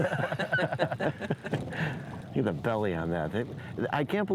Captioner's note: fishermen laugh